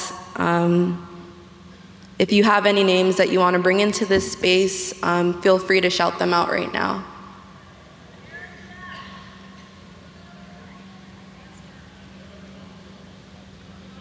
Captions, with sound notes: if you have any names that you want to bring into this space, feel free to shout them out right now. (shouts from audience)